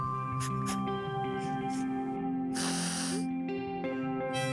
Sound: sniffles

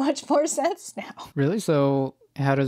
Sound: laughs

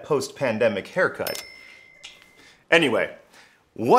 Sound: bell chimes

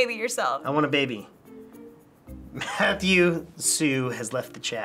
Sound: chuckles

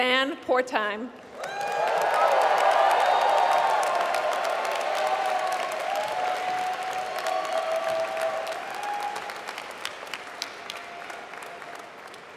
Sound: applause

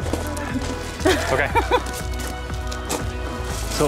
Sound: laughter

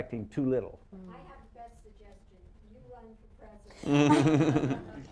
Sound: off mike; laughter

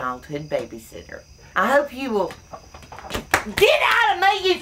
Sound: slaps

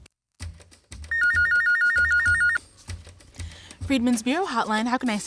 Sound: phone ringing

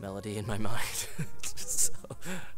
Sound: laughs

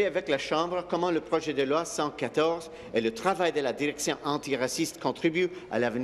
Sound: speaking in French

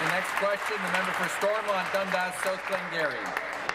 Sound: applause

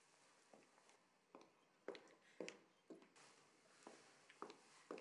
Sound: footsteps clicking

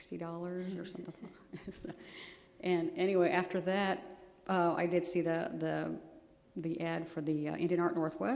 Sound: laughter

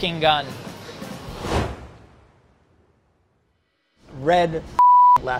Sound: whooshing

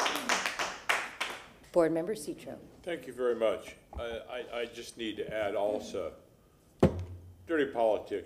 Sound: applause

